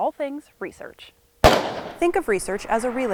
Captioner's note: gun fires